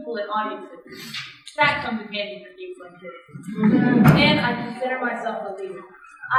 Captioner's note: laughter